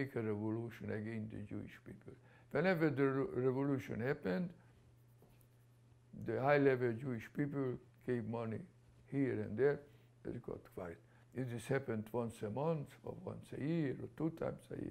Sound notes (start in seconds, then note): none